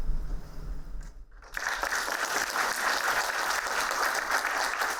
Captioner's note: applauding